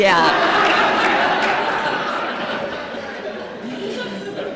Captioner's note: laughter